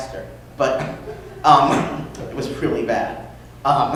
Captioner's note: laughter